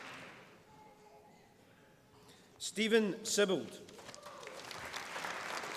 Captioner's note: applause